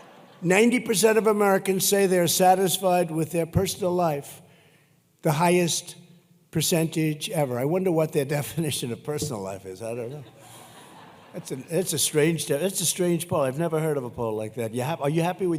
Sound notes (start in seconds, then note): 0.0 laughter; 10.0 laughter